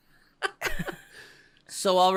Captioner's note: chuckles